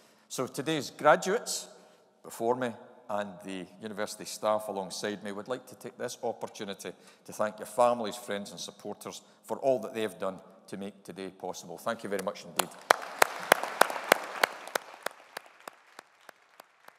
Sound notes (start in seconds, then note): 12.5 audience applauding